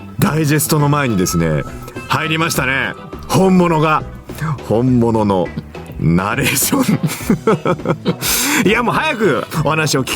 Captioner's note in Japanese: 笑い